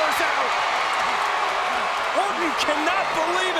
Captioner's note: crowd cheering